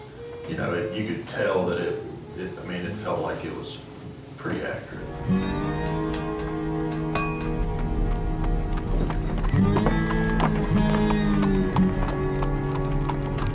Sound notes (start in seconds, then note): 5.2 metal hammering; 8.3 street life sounds, horse trotting